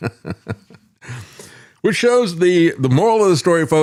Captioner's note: laughs